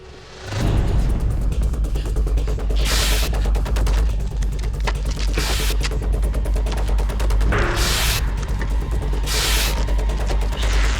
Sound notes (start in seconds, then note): 0.3 Tim panting; 0.3 suspenseful music; 2.7 tape ripping